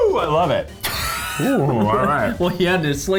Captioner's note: laughing